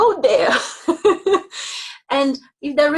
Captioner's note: laughing